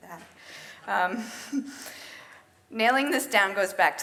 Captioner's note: chuckles